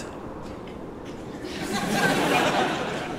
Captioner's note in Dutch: gelach